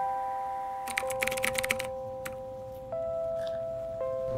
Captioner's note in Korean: 타자 소리